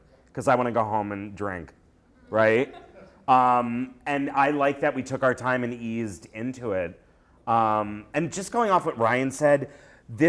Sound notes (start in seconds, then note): 2.2 laughter